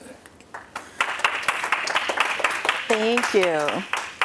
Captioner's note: applause